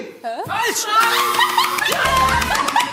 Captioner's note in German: Gelächter